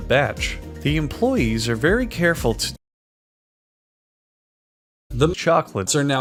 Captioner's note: sudden silence